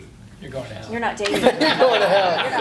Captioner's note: laughing